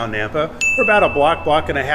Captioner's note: chime rings